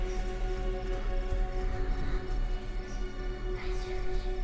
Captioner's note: eerie whispering